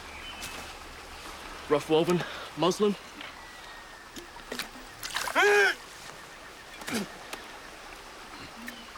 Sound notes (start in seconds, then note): 5.3 screaming